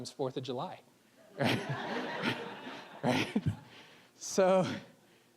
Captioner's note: audience laughing